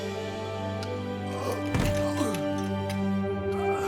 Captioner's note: light melodic orchestral music; groaning